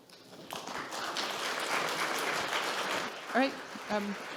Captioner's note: audience clapping